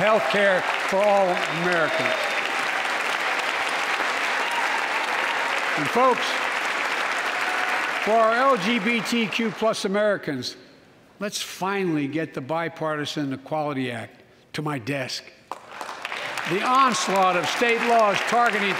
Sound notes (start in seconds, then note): 7.4 applause; 18.4 applause